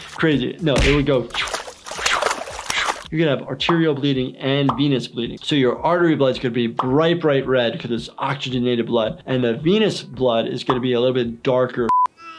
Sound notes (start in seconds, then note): 0.7 makes splash sounds